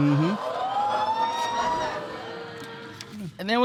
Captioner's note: audience exclaims